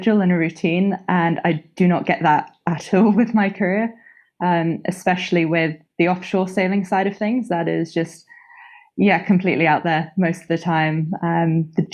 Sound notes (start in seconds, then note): none